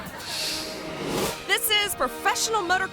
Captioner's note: audience laughs; graphic whooshes